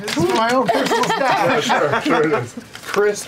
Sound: laughter

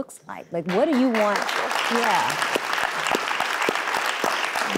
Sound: audience applauds

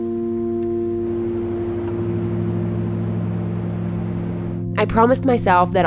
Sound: engine roaring

